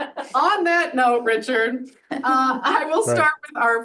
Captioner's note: audience laughs; laughs